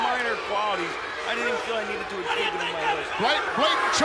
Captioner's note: speaking faintly